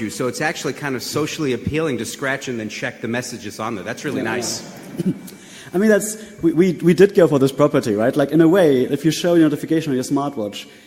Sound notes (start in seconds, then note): 4.0 audience voice in agreement